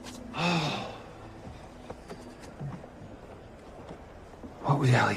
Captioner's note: sighs